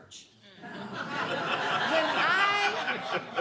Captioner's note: laughing